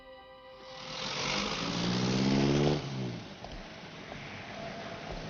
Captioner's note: car motor revving